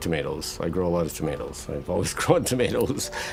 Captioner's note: chuckling